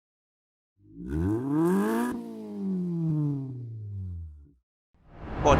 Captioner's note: engine revs